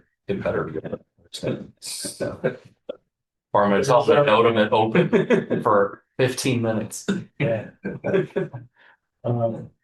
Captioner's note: laughter